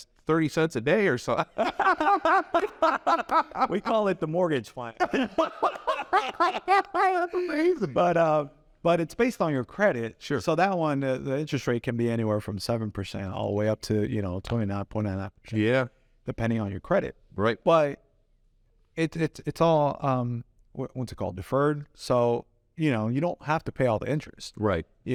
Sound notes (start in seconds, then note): 1.4 both laugh